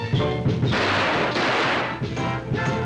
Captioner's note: gunshots